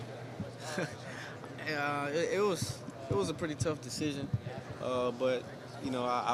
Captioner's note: chuckling